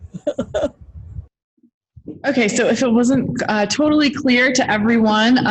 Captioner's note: laughing